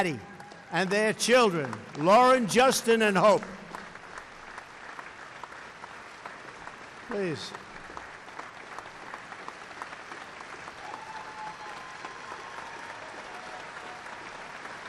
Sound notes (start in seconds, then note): 4.0 applause